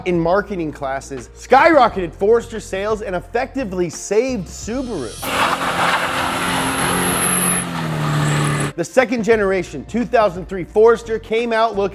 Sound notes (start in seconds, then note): 4.9 tires screeching